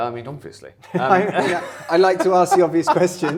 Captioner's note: men laughing